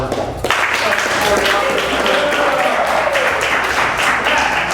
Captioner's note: applause